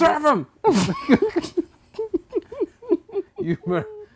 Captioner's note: laughing